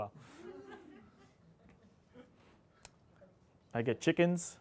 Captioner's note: audience laughing